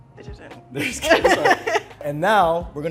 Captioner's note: laughing